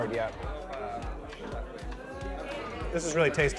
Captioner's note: restaurant guests chatter